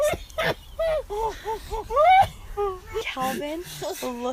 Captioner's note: laughing